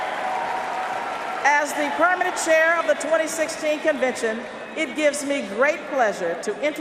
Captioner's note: cheers and applause